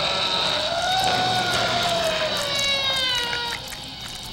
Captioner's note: electronic buzzing